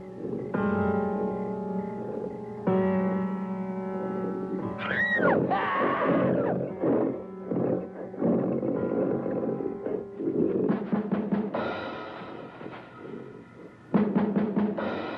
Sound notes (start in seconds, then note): 4.8 screaming; 11.2 intense music